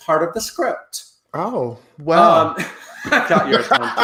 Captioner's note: laughing